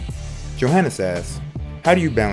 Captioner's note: voiceover